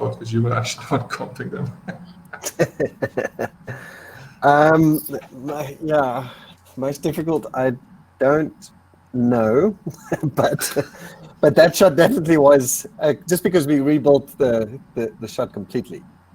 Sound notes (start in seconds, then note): 2.7 both laughing; 9.8 giggling